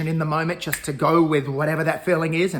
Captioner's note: fingers snapping